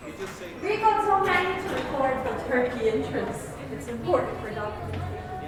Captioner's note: leaving the building, sounds on the street